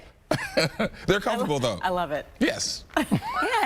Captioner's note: laughter